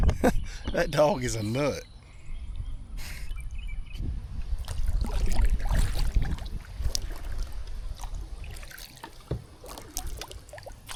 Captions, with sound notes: That dog is a nut. (water splashing)